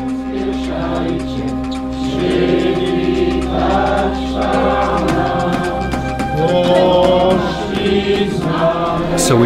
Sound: chanting

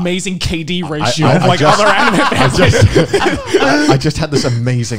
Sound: men laughing

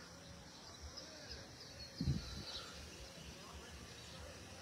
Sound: birds chirping

